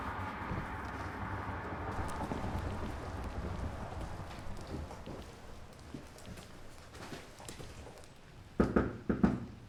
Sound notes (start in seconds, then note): 1.9 foot steps; 8.6 knocks on door